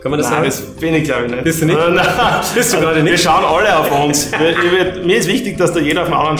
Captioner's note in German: lacht